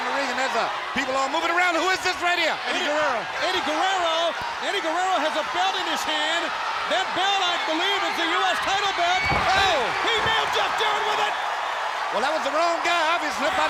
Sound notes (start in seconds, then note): 3.4 crowd clamoring; 8.6 body thudding; 9.0 belt thudding; 11.2 crowd cheering